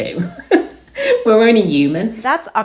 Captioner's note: laughs